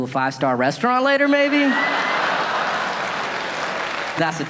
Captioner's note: audience laughing